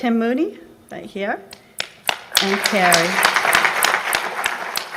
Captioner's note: applause